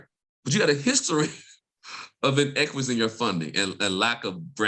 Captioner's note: laughs